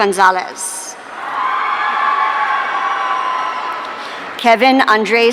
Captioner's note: audience cheering